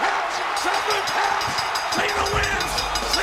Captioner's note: bell ringing